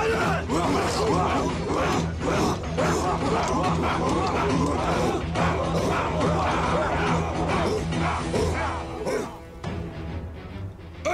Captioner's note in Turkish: Bağırma sesleri